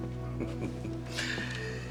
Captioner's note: chuckles